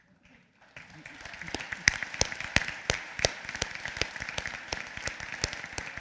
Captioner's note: applause